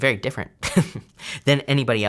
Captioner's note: chuckles